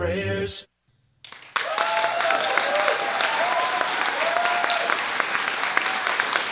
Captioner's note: audience cheering and applauding